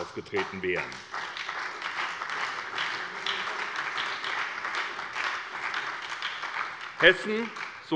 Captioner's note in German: Beifall bei der SPD und der FDP